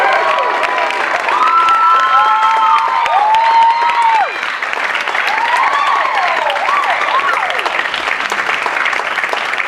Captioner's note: applause